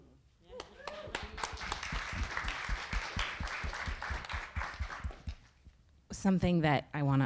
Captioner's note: audience applauding